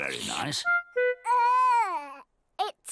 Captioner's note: character exclaims